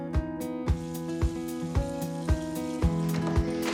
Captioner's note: sizzling